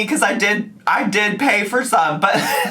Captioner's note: laughs